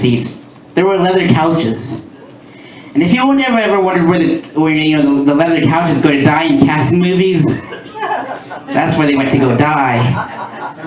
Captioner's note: laughter